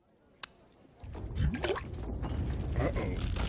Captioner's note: rumble